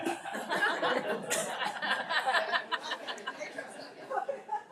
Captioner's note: laughs; attendees laugh